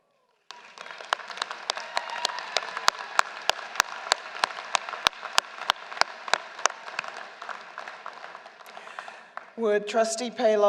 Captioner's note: applause